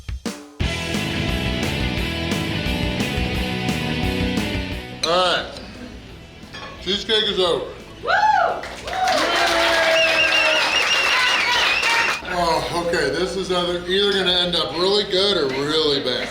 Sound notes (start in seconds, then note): 8.1 cheering & Clapping